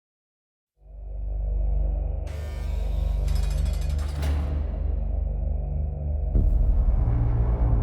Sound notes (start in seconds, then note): 2.3 gate buzzing; 5.4 intense music